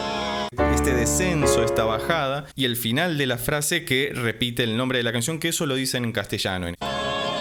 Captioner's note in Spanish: en español